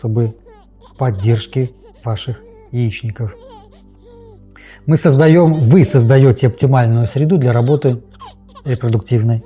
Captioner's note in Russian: плач